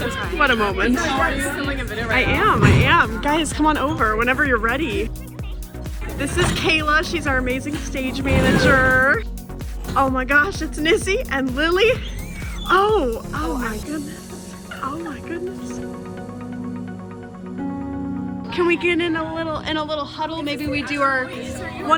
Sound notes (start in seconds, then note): 11.9 blows whistle